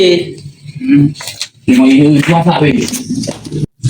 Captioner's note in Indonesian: berdehem